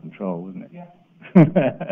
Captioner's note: laughs